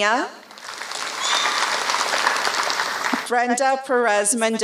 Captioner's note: applause